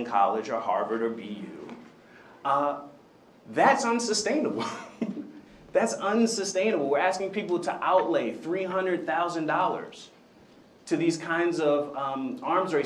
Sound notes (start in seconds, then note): 4.5 chuckles